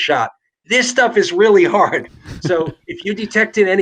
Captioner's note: both laugh